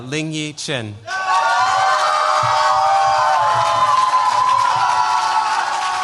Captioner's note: cheers, applause